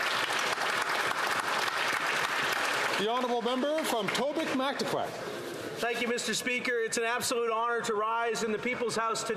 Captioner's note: applause